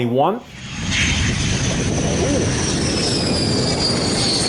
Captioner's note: plane engine roaring